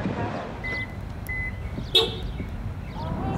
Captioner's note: car horn